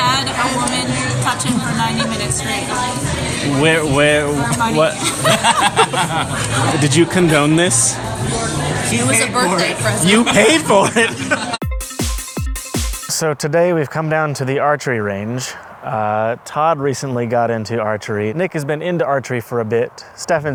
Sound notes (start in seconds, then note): 4.6 laugh; 10.1 laughs; 11.6 fast-paced transition music